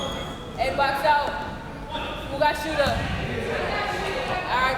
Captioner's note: crowd members shouting